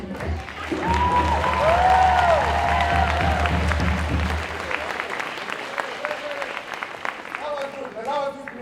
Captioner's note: applause